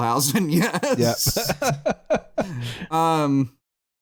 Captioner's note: laughs